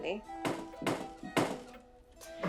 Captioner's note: knocking